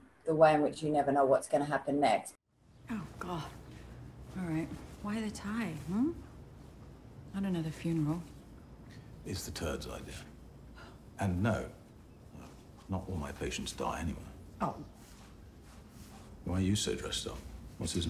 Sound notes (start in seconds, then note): none